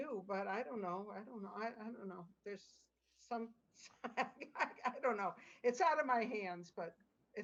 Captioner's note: laughter